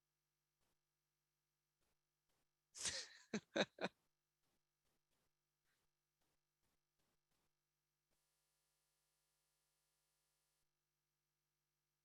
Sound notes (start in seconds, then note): 2.8 laughs